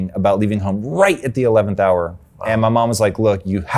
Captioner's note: groans